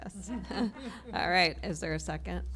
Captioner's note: laughter